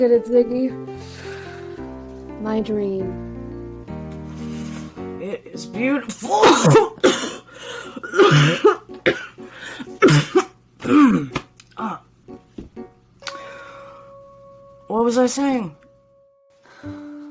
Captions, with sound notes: - Look at it, Ziggy. My dream. - It's beautiful. (Ziggy coughing) What was I saying?